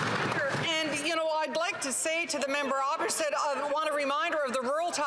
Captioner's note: some Applause